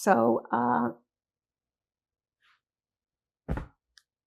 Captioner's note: pauses 8 seconds